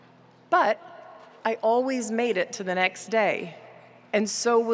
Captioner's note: none